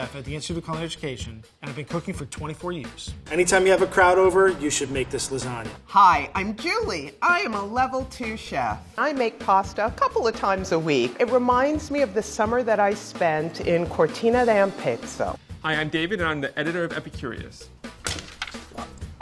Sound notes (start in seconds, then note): 18.0 paper stabbing